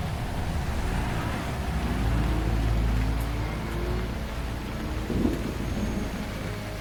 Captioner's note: dramatic music; thunder rumbling